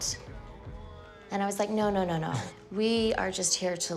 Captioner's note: Risos